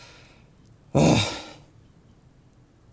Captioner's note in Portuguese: grunhido